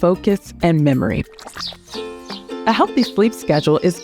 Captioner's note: transition whooshing